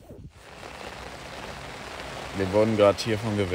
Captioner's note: rain patter